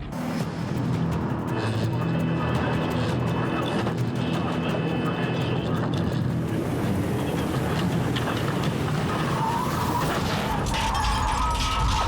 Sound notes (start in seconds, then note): 0.3 dramatic music playing; 9.3 tires squeal; 9.8 crash